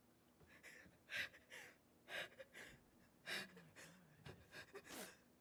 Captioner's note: singer sobbing